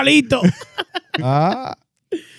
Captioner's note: laughing